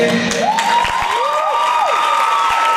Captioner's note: applause